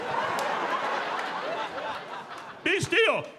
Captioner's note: audience laughing